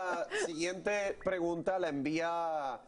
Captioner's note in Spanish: risas